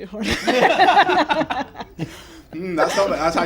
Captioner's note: laughter